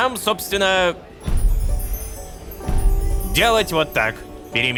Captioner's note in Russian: Звук телепортации Искры